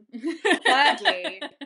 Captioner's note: laughter